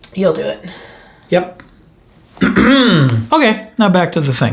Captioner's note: throat clearing